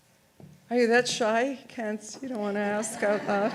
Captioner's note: audience laughs